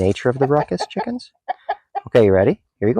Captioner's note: chickens clucking